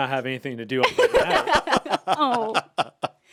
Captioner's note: laugh